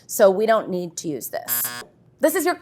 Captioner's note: buzzer sounds